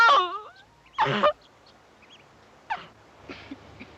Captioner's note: crying; coughing